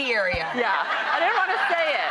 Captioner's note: crowd laughs